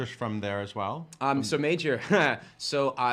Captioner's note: chuckles